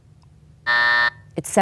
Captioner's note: buzzer buzzes